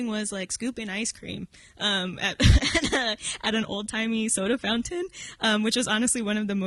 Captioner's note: chuckles